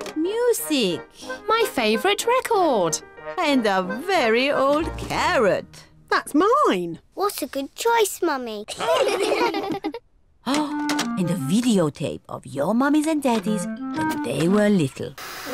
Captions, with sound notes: -Music. -My favorite record. And a very old carrot. -That's mine! -What a good choice, Mummy. (ALL LAUGH) Oh! And a videotape of your mummies and daddies when they were little.